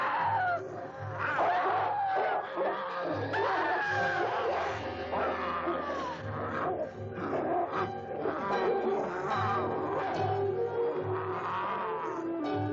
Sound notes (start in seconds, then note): 1.3 dog barking; 6.1 Priscilla gasps; 9.4 werewolf snarling